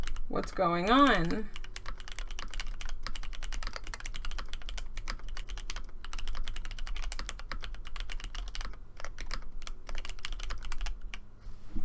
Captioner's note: typing sounds